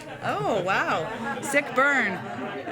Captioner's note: laughter